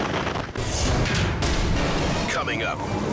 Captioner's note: metal thuds